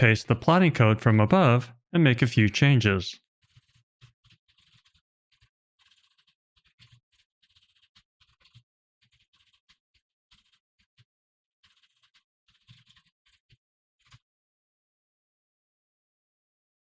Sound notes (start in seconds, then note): 5.8 typing sounds